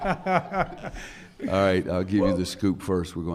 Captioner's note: laughter